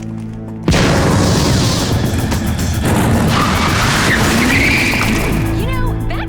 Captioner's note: motorcycle sound